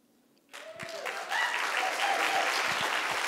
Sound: applause

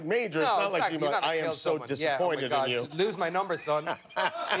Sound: laughter

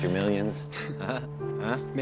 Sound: both laughing

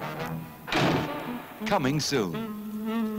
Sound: crash

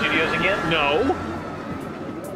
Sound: roller coaster whooshing; riders screaming

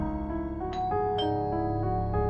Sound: doorbell rings

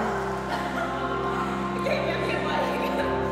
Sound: laughter

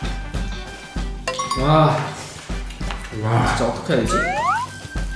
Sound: exclaiming ooh's and ah's

